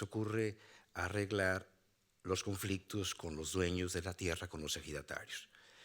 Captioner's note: speaking Spanish continues